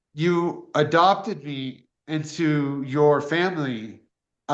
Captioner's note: none